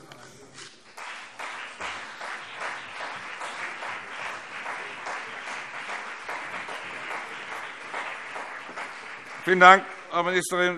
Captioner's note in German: Beifall CDU und BÜNDNIS 90/DIE GRÜNEN